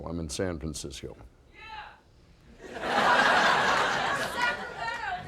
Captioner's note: audience laughing